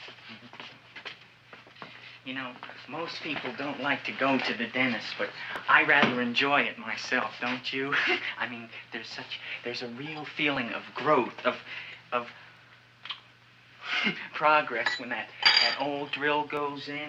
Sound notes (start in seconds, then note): 0.2 feet thumping; 7.9 laughs